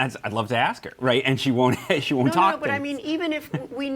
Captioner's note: laughs